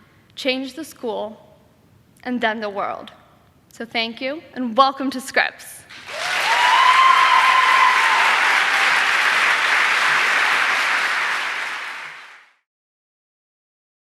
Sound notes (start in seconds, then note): 5.9 audience applauding